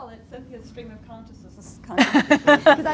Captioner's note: laughter